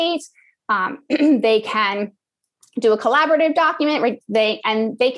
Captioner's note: cough